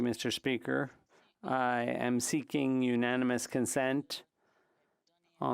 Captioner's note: speaking French